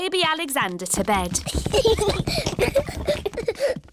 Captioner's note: children giggling